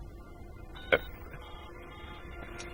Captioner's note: dialing